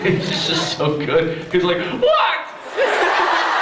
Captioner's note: laughs; teddy bear voice; laughs